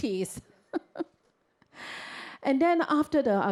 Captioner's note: chuckles